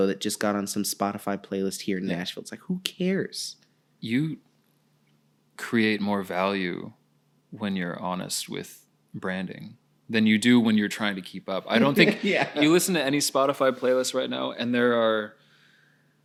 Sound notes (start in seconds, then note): 11.8 laughing